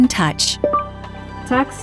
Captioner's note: beeping